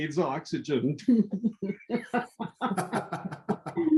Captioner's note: laughing